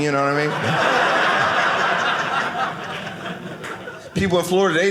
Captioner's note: audience laughing